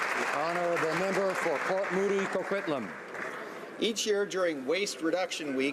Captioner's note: applause